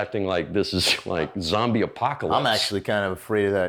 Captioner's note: scoffs